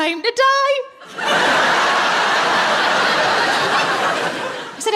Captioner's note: laughing